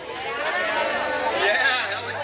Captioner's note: crowd responding